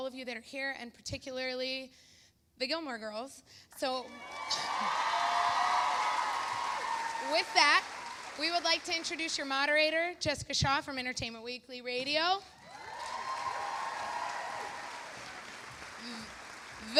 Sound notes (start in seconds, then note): 4.0 audience cheering; 4.1 chuckles; 12.6 audience cheering; 12.6 audience applauding